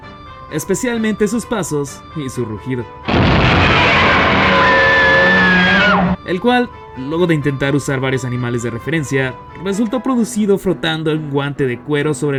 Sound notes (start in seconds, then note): 3.0 Godzilla roar